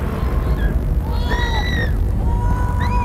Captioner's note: screams